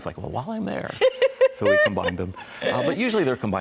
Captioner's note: laughs